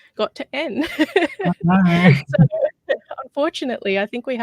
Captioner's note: laughs